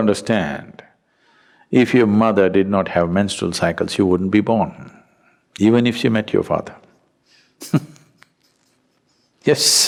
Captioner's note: laughs